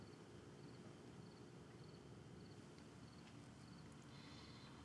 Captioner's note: insects chirping